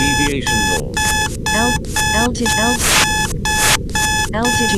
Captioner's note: alarm beeping